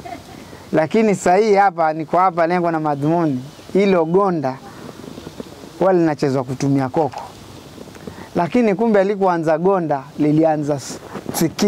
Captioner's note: mango seeds leg rattles